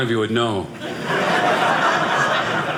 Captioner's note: audience laughing